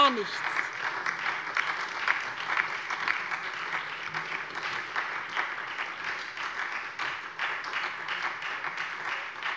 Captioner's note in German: Beifall SPD und vereinzelt LINKE